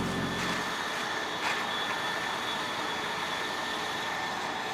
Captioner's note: bag rustling